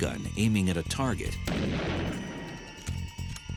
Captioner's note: gunshot